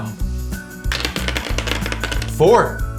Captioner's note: dice rattle